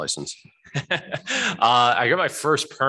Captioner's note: laughs